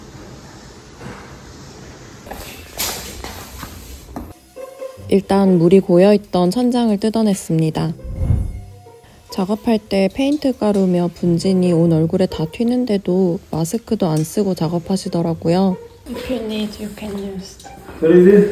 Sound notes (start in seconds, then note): 8.0 extremely loud noise and dust